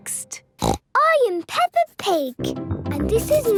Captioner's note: snorts